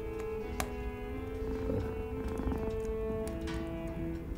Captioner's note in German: Schnurren